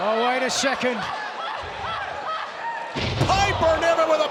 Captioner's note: Toni shouts